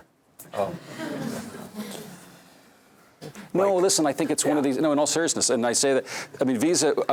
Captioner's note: laugh